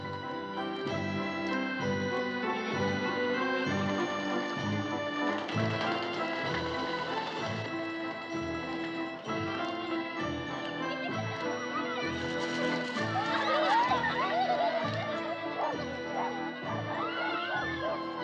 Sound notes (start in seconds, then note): 10.7 children Giggling, Laughing